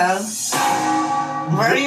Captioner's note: bell tolls